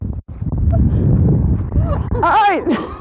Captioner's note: laughing